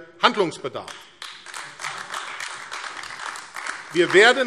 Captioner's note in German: Beifall AfD